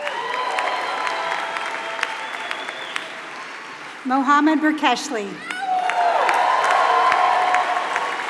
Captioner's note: applause